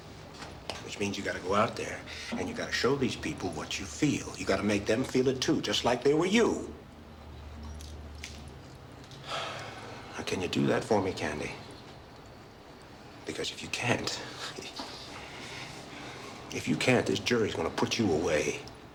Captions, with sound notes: Which means you've got to go out there and you've got to show these people what you feel. You've got to make them feel it, too, just like they were you. [SIGHS] Now, can you do that for me, Candy? Because if you can't... If you can't, this jury's gonna put you away.